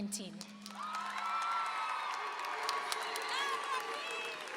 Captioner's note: applause and cheering